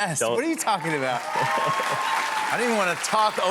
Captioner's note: cheers and applause